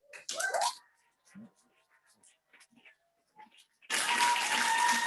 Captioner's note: audience applauding